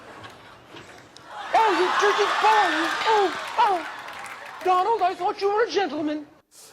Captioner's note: laughter